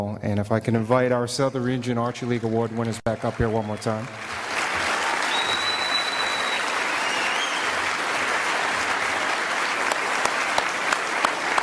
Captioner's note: applause